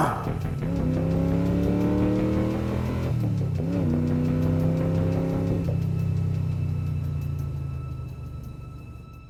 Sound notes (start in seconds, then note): 0.0 suspenseful music continues; 0.0 vehicle droning